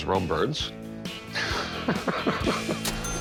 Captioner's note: laughs